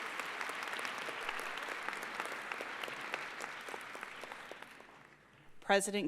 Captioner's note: applause